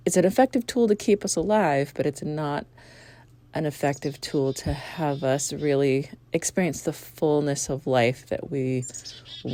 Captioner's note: chickadee chirping "chick-a-dee-dee-dee"